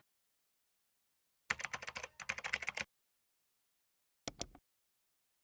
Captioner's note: keyboard clacking; mouse clicking